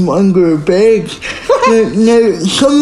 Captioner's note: laughing